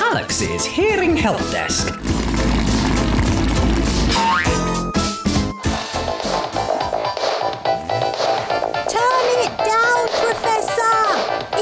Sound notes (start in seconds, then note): 1.9 roaring; 6.8 loud electronic music